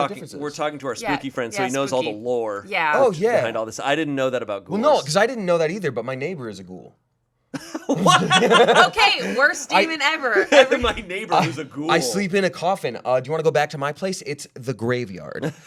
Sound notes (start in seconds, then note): 7.5 laughing; 15.4 laughing